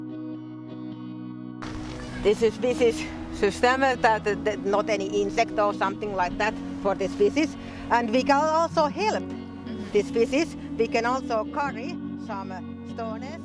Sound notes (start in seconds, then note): 2.1 speaking Finnish